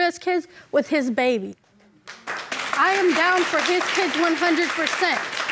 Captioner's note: audience applauding